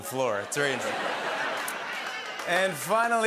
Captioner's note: laughter and applause